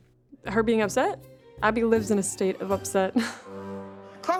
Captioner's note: chuckles